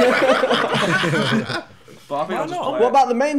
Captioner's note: laughing